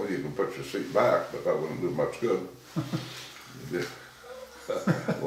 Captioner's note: laughing